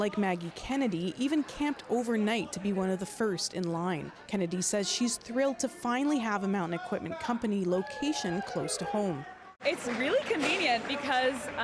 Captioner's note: cheering and Applause